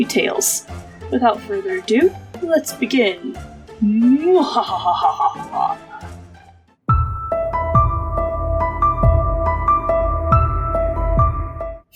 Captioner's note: thunder and lightning